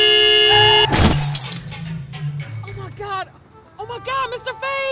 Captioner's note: horn honking